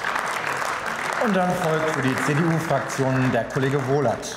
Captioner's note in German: Beifall